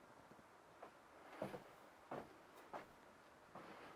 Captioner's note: feet pattering